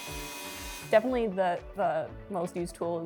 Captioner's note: saw buzzing